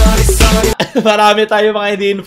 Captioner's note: laugh